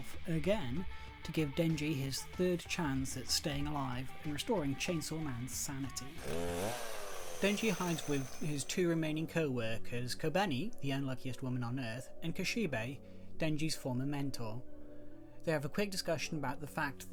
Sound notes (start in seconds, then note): 6.1 loud engine rev